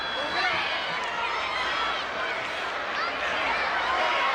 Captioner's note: crowd yelling